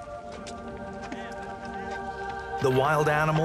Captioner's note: gentle suspenseful music; indistinct chatters